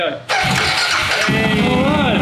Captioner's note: bike noises